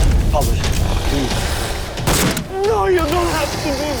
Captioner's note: zombie groans